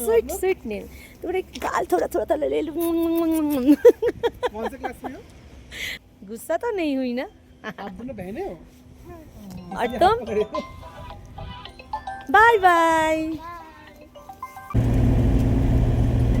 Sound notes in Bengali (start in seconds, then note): 3.6 সশব্দ হাসি